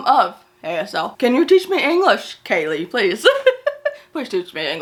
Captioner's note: laughs